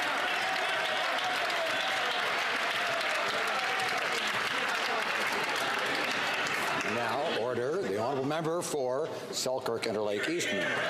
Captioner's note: some Applause